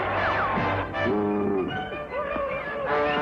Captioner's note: bull grunts